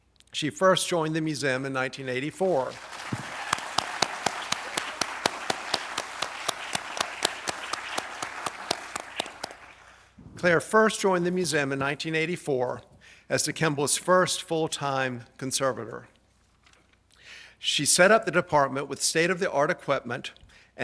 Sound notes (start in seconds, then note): 2.4 audience applauds